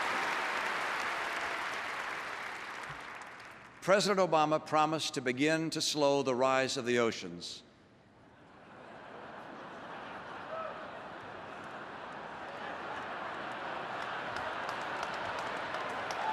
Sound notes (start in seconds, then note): 8.4 laughter and applause